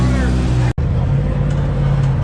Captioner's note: engine revving